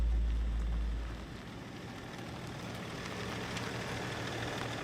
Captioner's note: engine rumbling